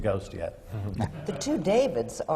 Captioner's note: laughter